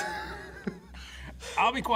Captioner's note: both laugh